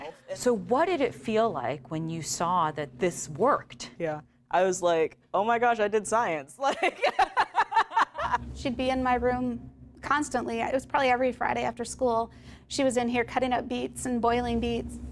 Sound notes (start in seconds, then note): 6.6 laughter